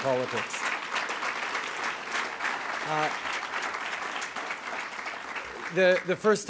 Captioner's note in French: Applaudissements